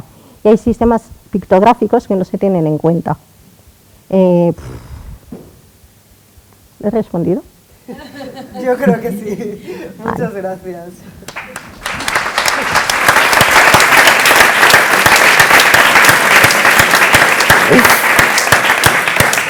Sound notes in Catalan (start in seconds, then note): 7.8 riures; 12.3 aplaudiments